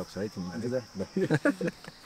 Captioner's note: laughs